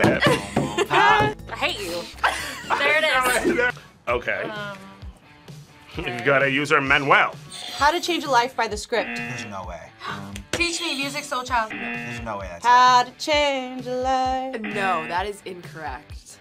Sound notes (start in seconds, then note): 2.0 both laugh; 8.9 buzzer rings; 9.0 buzzer; 10.1 gasps; 11.6 buzzer; 14.6 buzzer